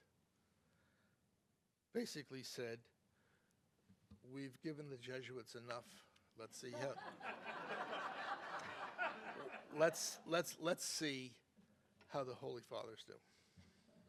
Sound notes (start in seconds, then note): 6.7 audience laughing